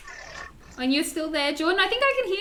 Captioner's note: penguins talk